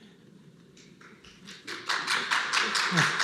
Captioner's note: applause